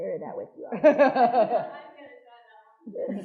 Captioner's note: attendees laughing